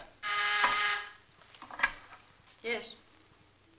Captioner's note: phone buzzes